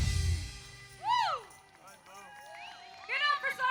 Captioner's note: audience applauds and cheers